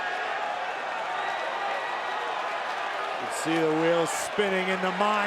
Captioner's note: applause